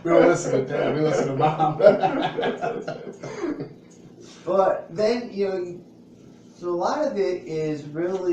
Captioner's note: laughs